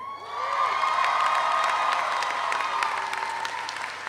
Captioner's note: audience applauds